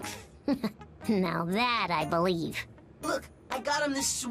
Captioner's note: laughs